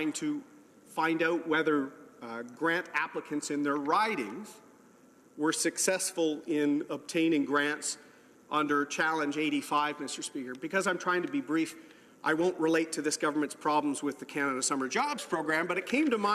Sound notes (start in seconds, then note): none